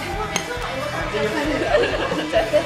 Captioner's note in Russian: звон стаканов